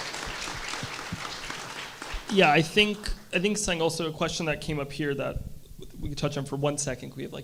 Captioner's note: applause